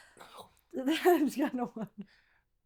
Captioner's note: laughs